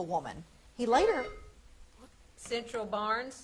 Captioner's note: buzzer beeps